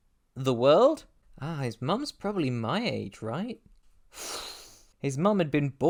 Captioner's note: exhales through teeth